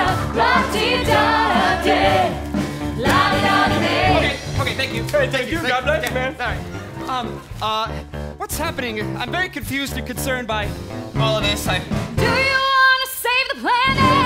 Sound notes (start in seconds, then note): 4.0 speaking